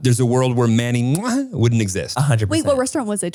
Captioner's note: smooches